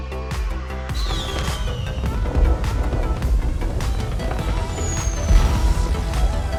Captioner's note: fireworks whistling and cracking